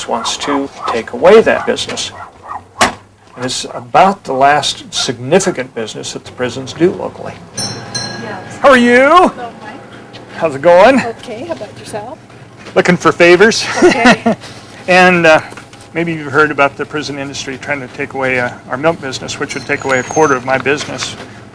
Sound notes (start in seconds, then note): 13.6 laughter